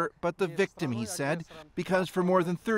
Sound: speaking Foreign Language

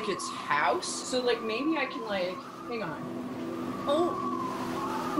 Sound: whirring sound intensifies

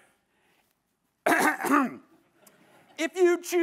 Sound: clears throat

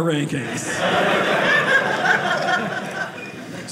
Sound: audience laughing

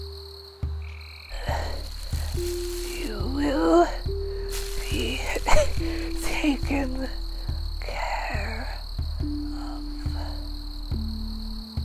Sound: cough

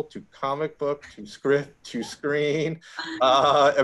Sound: both chuckling

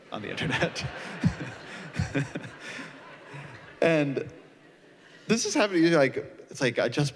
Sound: laughter

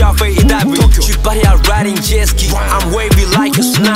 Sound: vroom

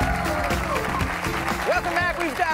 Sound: cheers and applause

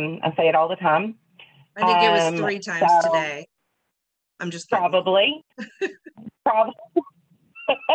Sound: laughing

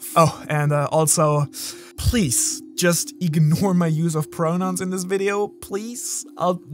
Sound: takes breath

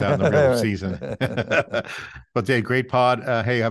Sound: both chuckling

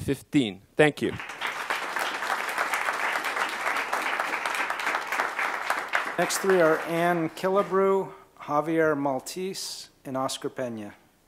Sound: applause

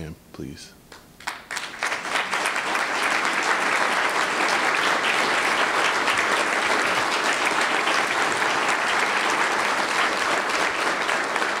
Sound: applause

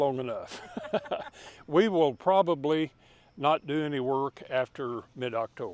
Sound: laughing

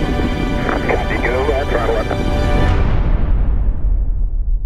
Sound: radio: copy, go at throttle-up

